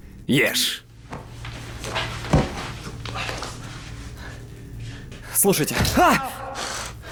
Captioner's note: foot stomps